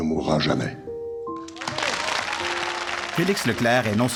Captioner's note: cheers and applause